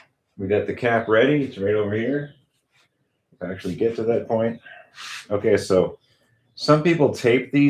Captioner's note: snorts